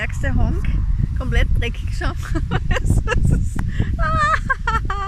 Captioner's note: laughter